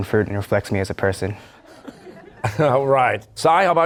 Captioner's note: laughter